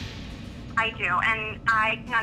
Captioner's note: woman on Phone